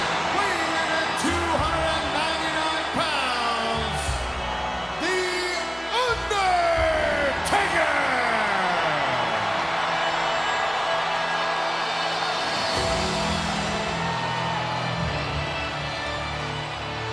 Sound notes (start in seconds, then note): 7.4 crowd cheering; 10.2 upbeat music continues